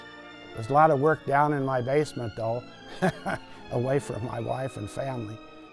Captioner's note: laugh